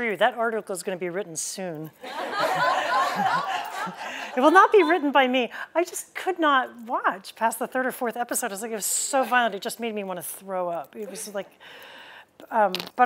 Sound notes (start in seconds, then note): 2.0 laughter